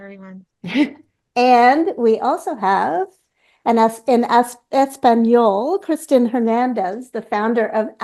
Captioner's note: in Spanish